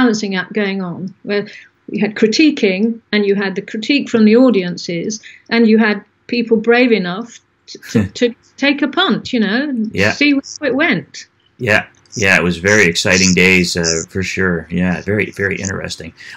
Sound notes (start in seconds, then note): 7.8 laughs